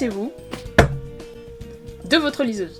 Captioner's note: ereader slam